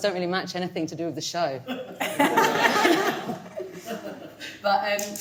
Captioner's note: audience laughing